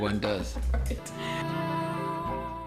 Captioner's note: laughter